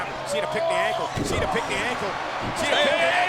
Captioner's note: body thudding